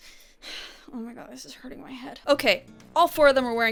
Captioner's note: sighs